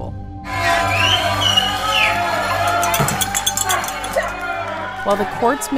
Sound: cheering

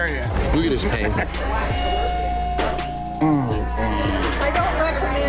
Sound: foreboding zing

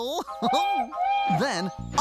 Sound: toot-Toot!

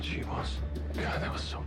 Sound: lowered voice

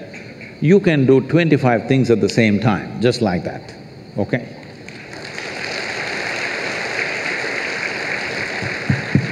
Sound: applause

